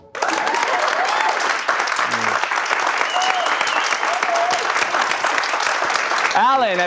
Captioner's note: audience clapping